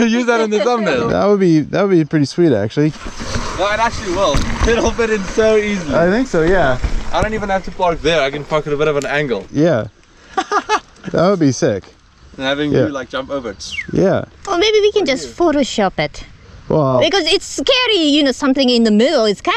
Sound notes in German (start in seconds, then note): 10.2 Lachen